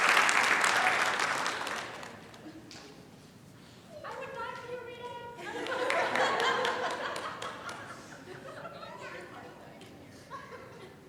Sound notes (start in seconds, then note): 5.4 laughter